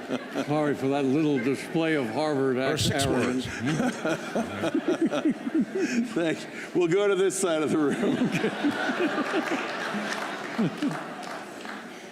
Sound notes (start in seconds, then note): 7.6 laughter; 8.9 applause